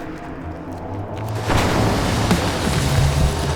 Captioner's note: dramatic music; crashing